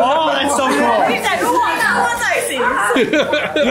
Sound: group chuckles and chatters; laughs

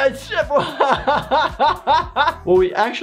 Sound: laughing

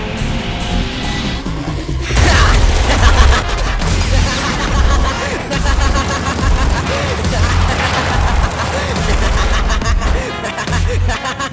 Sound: maniacal laughter; gunfire

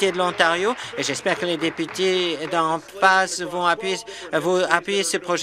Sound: some Applause

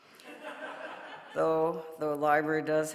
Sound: audience laughing

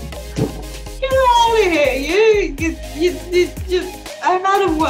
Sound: stuttering

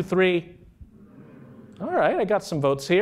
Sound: humming

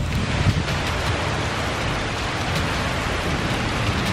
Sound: heavy raining

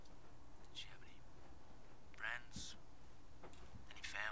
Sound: Muffled Zeeland Recording

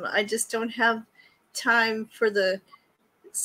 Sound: none

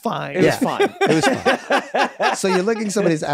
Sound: everyone laughs

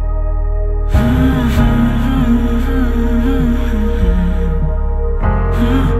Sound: hmm, hmm, hmm

